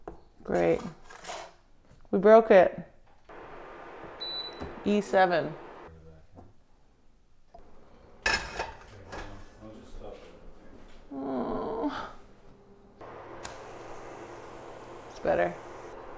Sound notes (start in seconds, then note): 11.1 groans